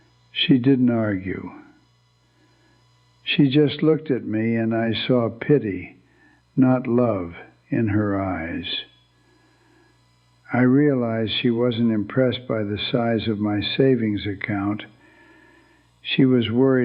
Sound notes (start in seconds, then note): 5.4 whispers